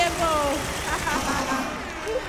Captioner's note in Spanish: Aplausos